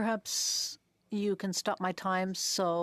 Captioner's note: speaking French